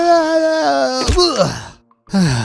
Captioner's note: thuds; sighs deeply